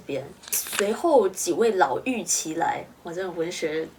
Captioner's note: using poetic Chinese